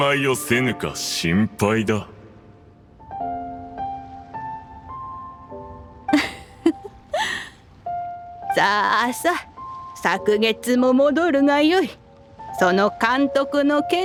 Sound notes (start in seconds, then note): 6.1 chuckles